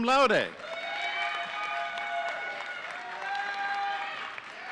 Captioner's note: audience cheering